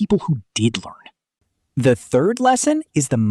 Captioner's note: pause